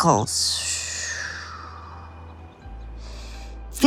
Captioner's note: exhales